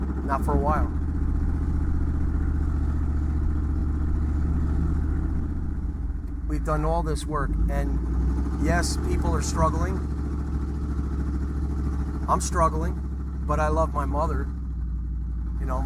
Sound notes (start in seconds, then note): none